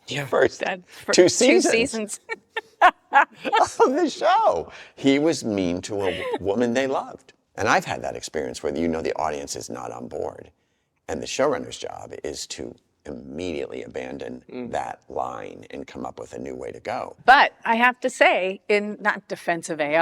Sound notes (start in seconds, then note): 2.3 both laugh